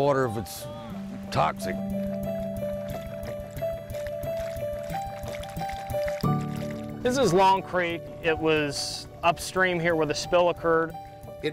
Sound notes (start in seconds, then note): 0.6 water lapping gently; 2.1 gentle music